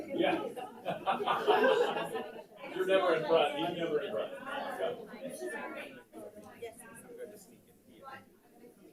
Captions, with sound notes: - Yeah! (laughs) You're never in front, you're never in front. (light chatter)